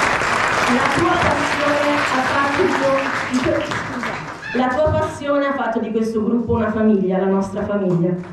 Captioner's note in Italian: Applauso